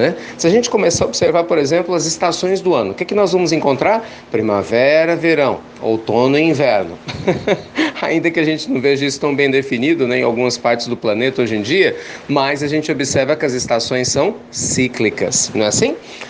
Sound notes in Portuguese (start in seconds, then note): 7.0 risadas